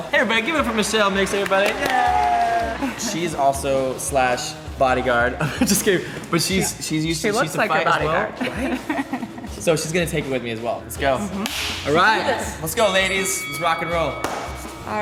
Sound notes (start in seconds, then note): 0.4 applause; 8.2 laughs